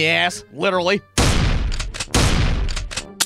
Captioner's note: bang-click!